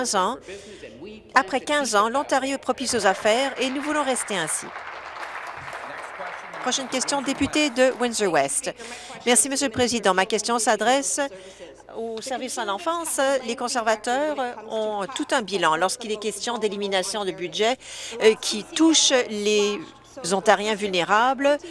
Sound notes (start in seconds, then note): 5.8 applause